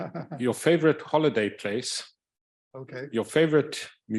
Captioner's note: chuckling